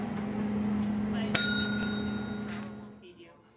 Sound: bell rings

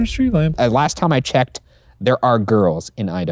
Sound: normal voice

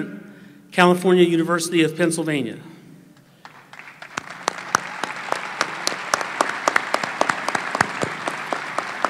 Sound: applause

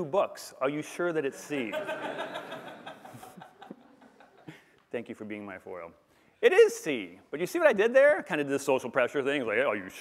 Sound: laughter

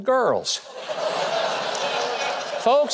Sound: crowd laughing

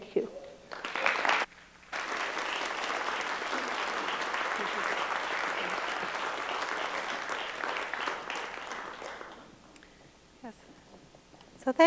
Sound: applause

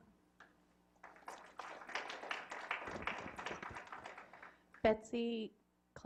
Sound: applause

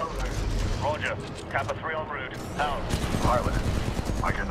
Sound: radio

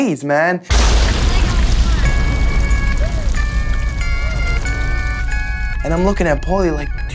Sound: thunder crashes; funky music

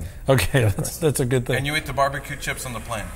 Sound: laughs

